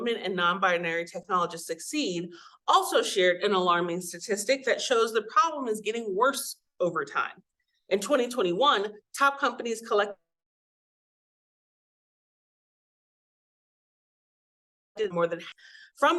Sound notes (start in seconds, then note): 11.2 audio cuts out